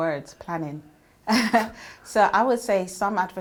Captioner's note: laughs